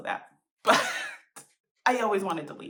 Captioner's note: laughter